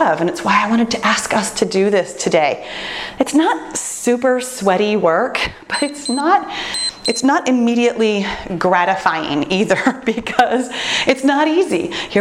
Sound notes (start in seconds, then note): 6.6 timer beeps